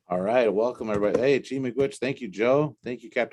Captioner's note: native language spoken